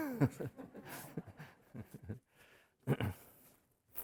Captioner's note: laughing